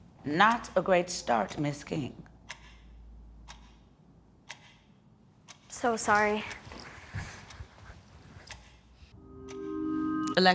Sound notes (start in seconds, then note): 2.2 clock ticking; 8.4 clock ticking